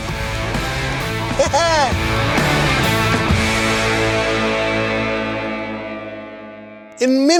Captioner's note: laughter